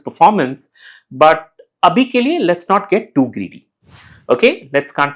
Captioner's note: hindi